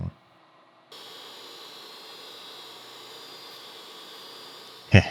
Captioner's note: tool humming